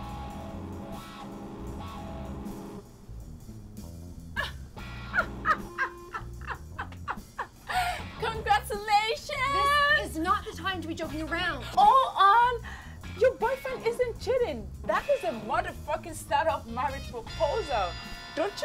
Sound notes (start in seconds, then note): 5.1 laughter